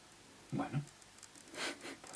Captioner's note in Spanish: Risas